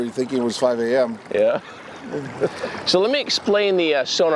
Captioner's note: laughs